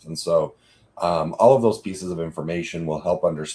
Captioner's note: none